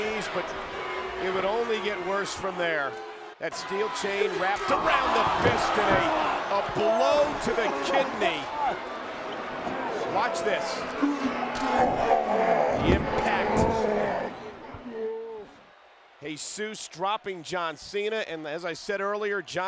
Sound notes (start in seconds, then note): 5.3 body thudding; 12.7 blows thudding; 13.0 body thudding